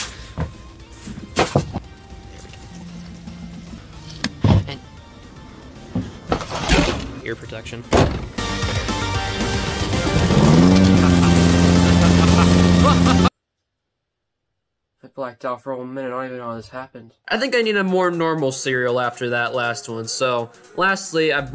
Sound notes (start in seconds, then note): 9.4 lawnmower starts; 10.7 laughs